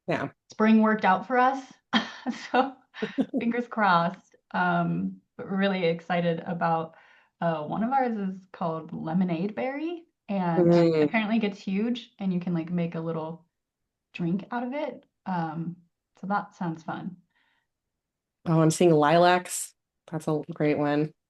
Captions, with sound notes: Yeah. Spring worked out for us, (laughs) so fingers crossed. Um, but really excited about... uh, one of ours is called lemonade berry and- Lemonade berry.... apparently it gets huge, and you can, like, make a little drink out of it. Um, so that sounds fun. Oh, I'm seeing lilacs. That's a great one.